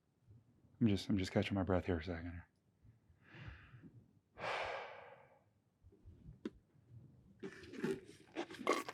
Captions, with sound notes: i'm just i'm just catching my breath here a second... *takes deep breath*